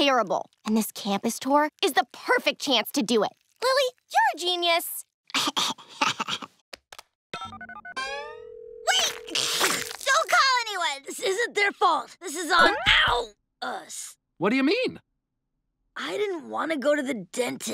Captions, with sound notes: And this campus tour is the perfect chance to do it. Lily, you're a genius. [giggling] [phone dialing] Wait. [sneezing] - Don't call anyone. - This isn't their fault. This is on; ow, us. What do you mean? I didn't want to go to the dentist.